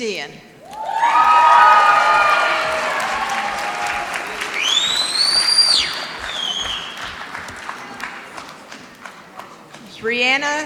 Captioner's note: applause